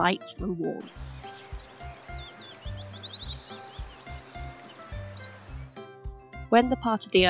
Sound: sound of birds chirping

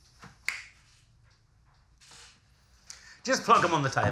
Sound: snaps

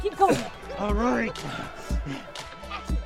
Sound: cough; laughter; cough

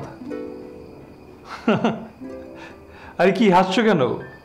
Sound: chuckles

